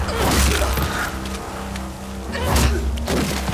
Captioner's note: grunting